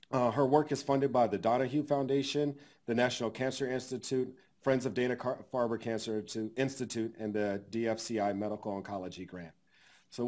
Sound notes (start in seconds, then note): none